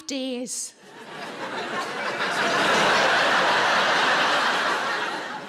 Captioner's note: audience laughs